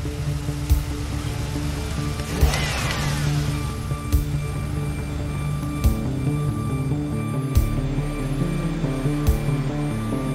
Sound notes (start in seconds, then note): 2.0 engine revving